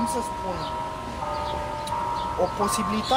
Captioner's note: church bells